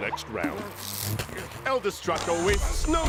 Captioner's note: electronic crackle